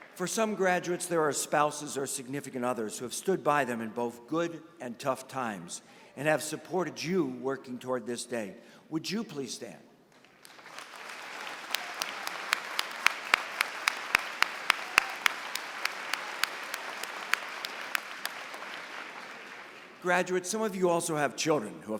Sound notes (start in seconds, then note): 10.4 applause